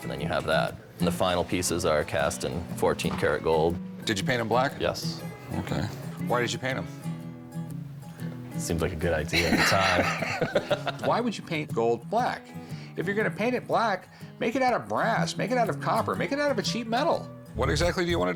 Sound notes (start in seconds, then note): 9.3 laughter